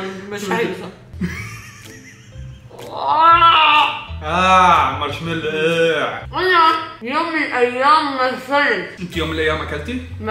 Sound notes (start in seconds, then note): 2.7 moans